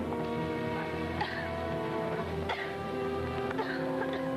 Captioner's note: Joan coughing